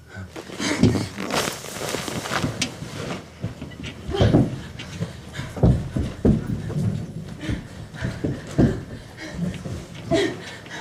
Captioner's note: more Commotion